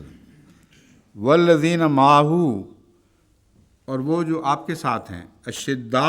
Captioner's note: Arabic